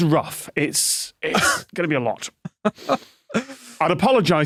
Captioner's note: laughs